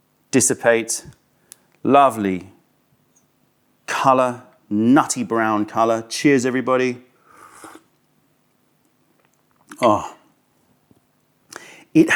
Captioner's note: sips tea